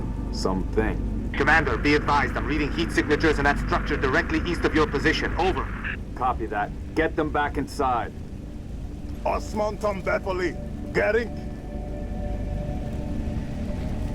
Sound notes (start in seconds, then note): 2.0 radio; 9.6 shouts orders in Hungarian